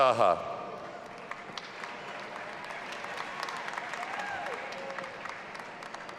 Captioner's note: audience applauding and cheering